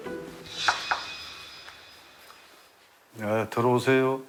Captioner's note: gentle knock knock